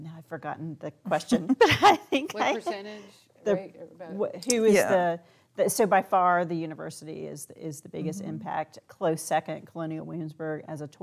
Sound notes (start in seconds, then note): 1.4 laughing